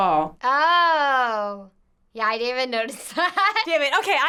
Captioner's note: laughs